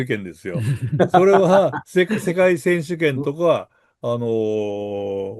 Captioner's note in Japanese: 笑い